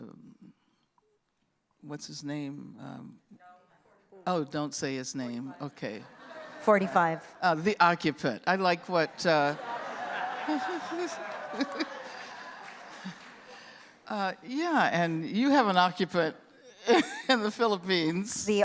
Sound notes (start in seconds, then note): 6.0 laughter; 9.0 laughter; 12.6 applause; 16.8 laughing